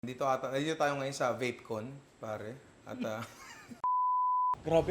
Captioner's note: laughs